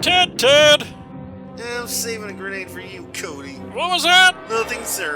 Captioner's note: nerdy grumbling